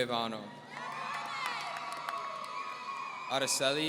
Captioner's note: audience cheering